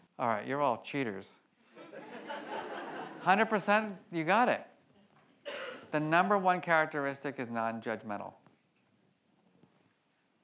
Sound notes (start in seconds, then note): 1.8 audience laughs